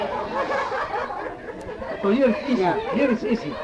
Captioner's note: laughter